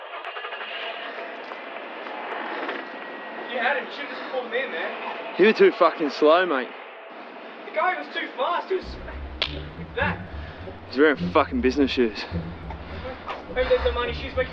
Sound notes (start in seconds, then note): 0.9 car engine rumbling; 9.3 claps